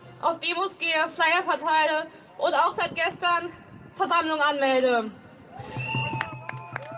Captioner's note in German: applaus, zustimmung